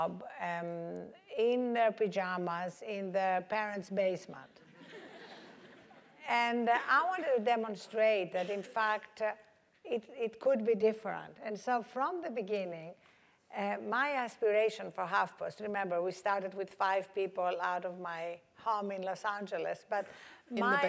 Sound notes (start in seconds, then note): 4.7 laugh